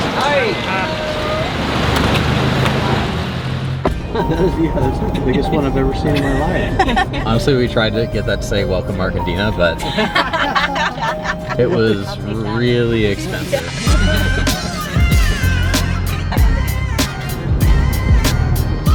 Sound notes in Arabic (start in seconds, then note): 9.7 ضحك